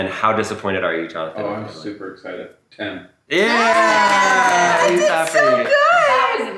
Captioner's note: clapping